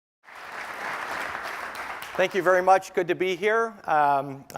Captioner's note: applause